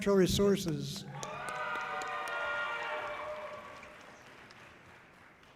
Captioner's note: audience cheering loudly